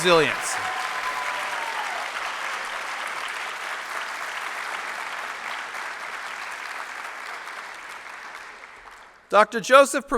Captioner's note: applause